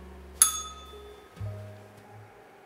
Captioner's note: bell rings